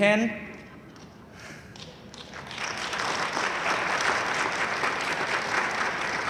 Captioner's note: audience laughing and applauding